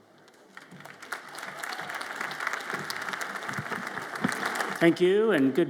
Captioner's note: audience applauds